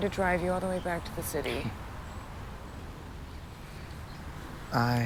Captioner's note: Chris scoffs